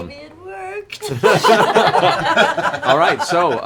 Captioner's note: laughter